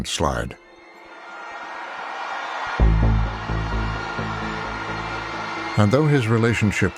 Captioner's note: cheers and applause